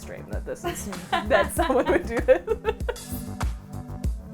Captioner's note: laughing